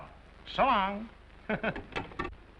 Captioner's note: chuckles